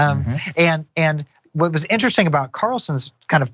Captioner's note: laugh